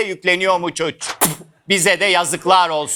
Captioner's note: spitting